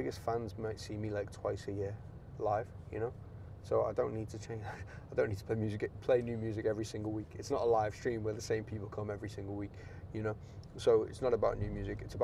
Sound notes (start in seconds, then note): none